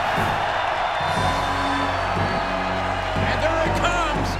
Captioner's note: audience cheers; upbeat music